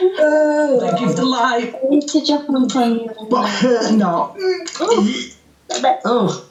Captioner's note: layered voices speaking, guttural vocal sounds